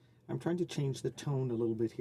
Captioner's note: speaking French